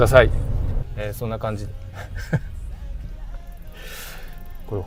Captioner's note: laughs